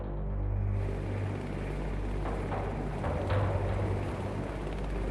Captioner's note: suspenseful music; helicopters whirring